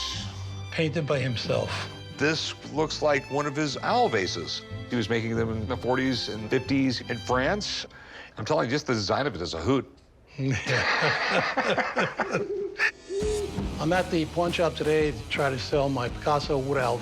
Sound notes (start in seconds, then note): 10.4 both laughing; 12.5 owl hoots